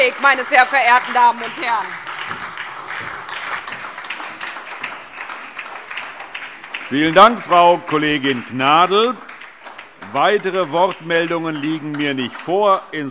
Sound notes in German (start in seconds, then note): 2.3 Beifall SPD und DIE LINKE